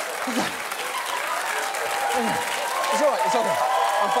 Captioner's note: panting; audience cheers